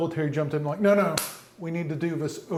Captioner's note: hand smacks